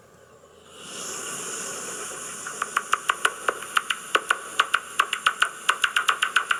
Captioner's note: clicking, chirping noise